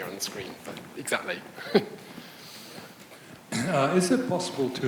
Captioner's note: laughs